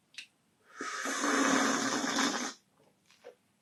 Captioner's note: slurps